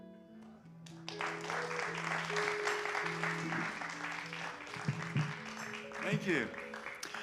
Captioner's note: applause